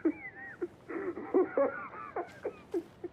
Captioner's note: laughing